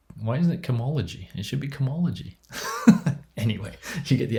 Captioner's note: chuckles